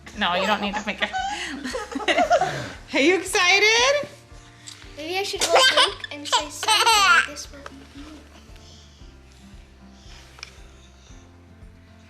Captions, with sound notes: - No, you don't need to make a head. Are you excited? (baby laughs)